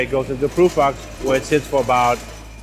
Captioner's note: rack rumbling